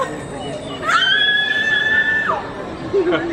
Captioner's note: screaming